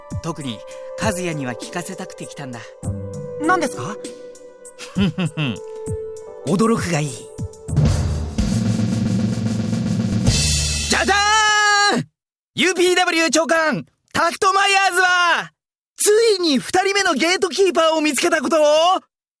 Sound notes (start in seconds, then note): 4.8 chuckle; 11.5 flourish